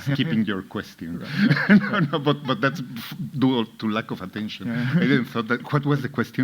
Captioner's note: laughs